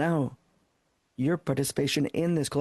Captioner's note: speaking French